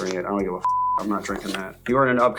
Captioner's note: beep